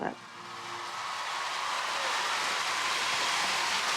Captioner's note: crowd cheering